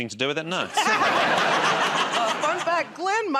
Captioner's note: laughter